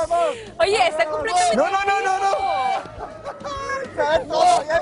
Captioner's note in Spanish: gritos